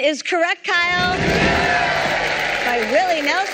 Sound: cheering

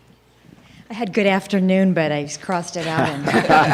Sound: laughter

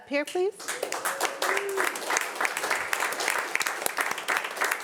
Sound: audience applauding

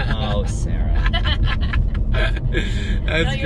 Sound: laughing

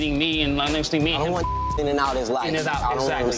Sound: beep

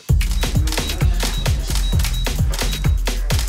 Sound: camera shutters clicking and beeping

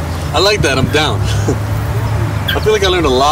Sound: chuckles

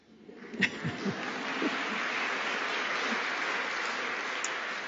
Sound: applause

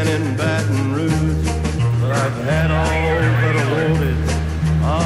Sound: radio chatter

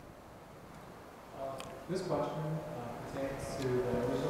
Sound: voiceover

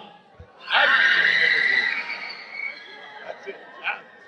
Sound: woman screams

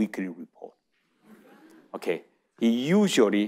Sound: audience chuckling

